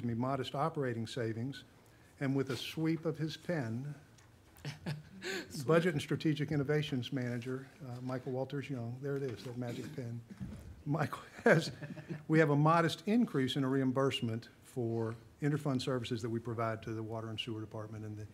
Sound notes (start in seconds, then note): 4.6 woman laughing